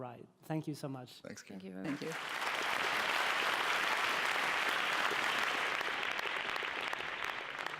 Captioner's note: applause